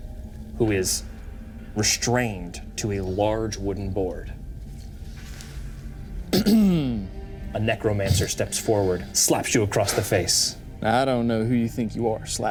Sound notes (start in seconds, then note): 6.3 Walker clears throat